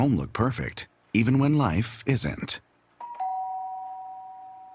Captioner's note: doorbell